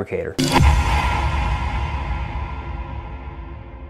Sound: logo whooshing

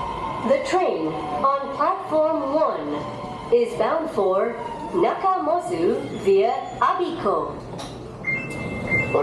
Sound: overhead announcement

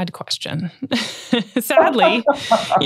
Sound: both chuckle

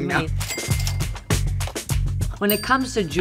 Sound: cash register dings

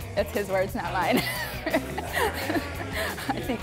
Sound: both laugh

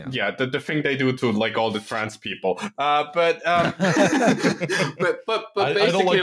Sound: laughter

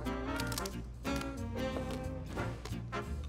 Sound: crunches

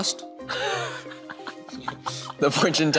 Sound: boy laughing

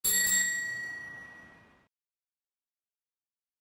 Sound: bell ringing

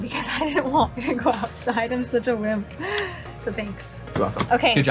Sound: laughs; kisses

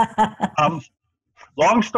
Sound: laughs

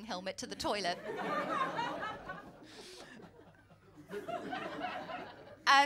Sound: laughter

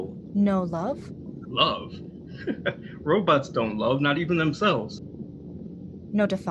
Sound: chuckles

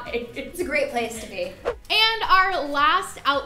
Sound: whooshing

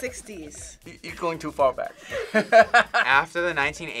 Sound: laughs

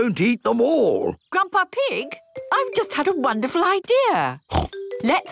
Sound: snort

